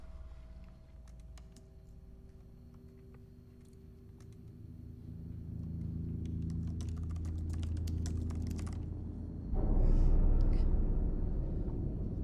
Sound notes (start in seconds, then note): 6.2 keyboard typing; 9.7 eerie music